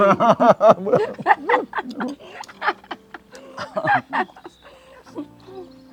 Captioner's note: both laughing